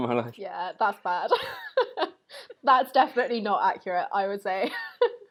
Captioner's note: laughs